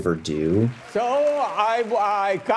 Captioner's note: audience claps